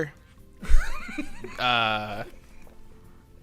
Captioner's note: laughter